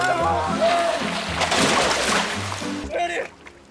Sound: splashing sound

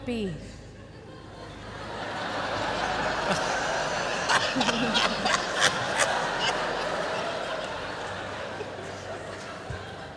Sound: laughter

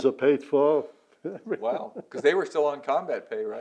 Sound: laughter

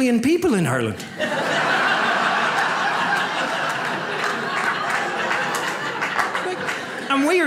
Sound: audience laughs

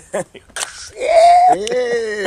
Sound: laughter; can spritzing

